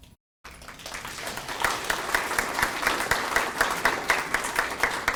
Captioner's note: attendees clapping